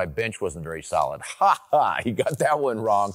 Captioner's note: laughs